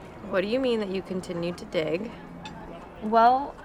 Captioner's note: none